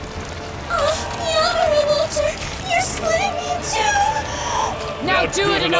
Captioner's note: girlish voice